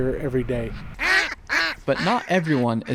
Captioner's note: bird calls